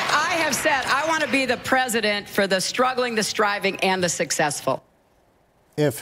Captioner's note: applause